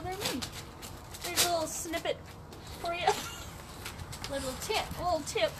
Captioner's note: laughs